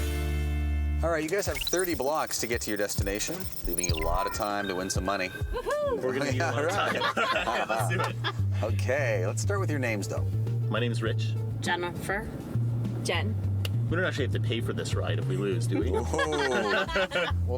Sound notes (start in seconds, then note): 5.5 laughing